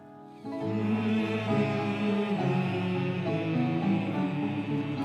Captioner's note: all humming